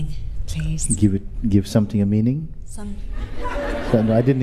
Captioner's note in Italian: Risate